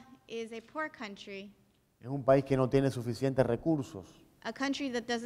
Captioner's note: speaking in Spanish